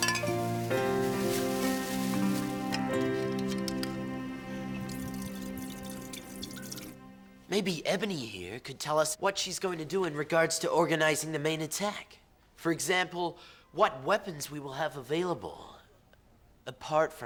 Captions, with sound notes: (cap unscrewing) (liquid pouring) - Maybe Ebony here could tell us what she's gonna do in regard to organizing the main attack. For example what weapons we will have available,